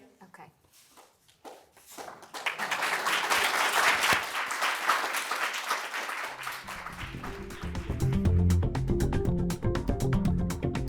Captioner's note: applause